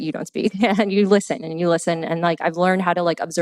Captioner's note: laughs